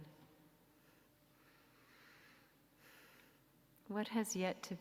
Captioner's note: soft exhale